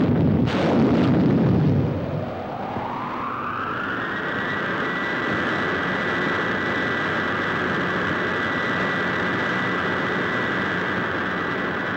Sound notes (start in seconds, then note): 2.7 wind howling